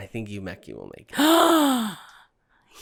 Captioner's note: gasp